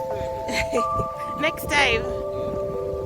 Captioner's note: laughter